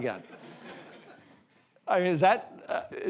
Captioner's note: all laughing